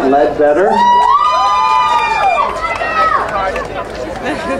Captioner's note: crowd cheering